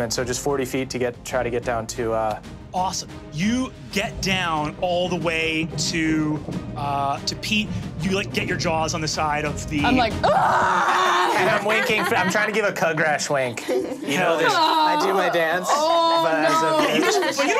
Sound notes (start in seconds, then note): 10.2 screams; 16.4 all laughing